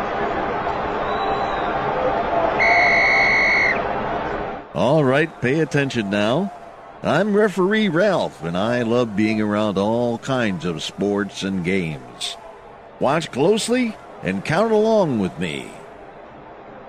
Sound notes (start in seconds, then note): 2.6 Referee Ralph blows whistle -TWEET!